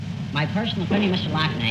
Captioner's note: apparently after huffing helium